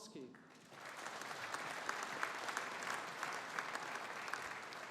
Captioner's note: audience applauding